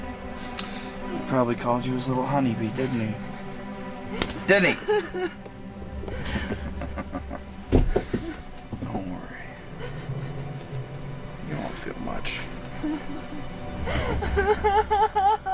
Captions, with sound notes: He probably called you his little honey bee, didn't he? Didn't he? (Crying) Don't worry... You won't feel much (Louder Crying)